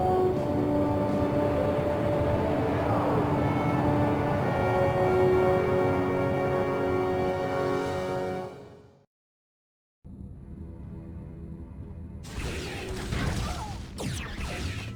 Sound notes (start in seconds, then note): 2.5 dramatic music; 9.4 laser blasts